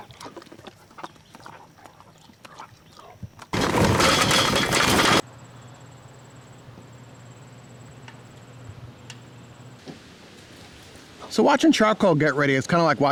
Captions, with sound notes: (chewing) (coals clanging) So watching charcoal get ready is kind of like